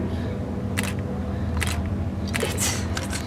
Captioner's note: camera shutters clicking